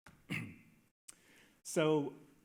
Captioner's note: clears throat